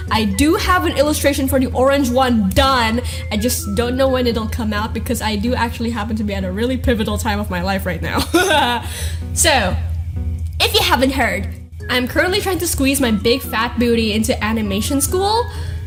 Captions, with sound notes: I DO have the illustration for the orange one DONE. I just...don't know when it'll come out, Because I do actually happen to be at a really pivotal time in my life right now. (Awkward laugh) So... If you haven't heard, I'm currently trying to squeeze my big fat booty into animation school.